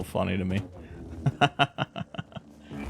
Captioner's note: laughs